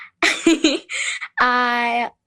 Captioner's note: giggles